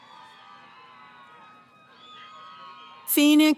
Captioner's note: cheering